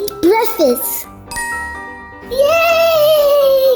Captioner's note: magical ting